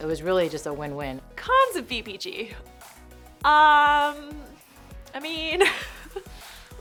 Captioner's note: laughter